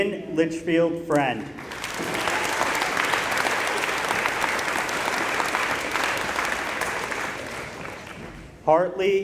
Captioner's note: applause